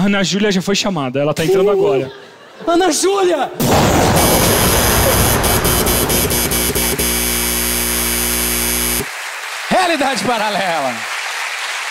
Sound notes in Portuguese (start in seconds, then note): 3.6 explosão; 6.4 campainha e aplausos